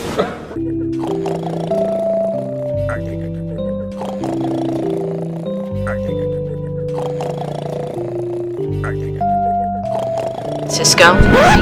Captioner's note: Mr Krabs snoring ACKACKs; record scratch